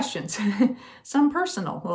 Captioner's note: laughing